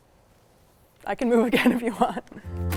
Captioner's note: laughs; upbeat music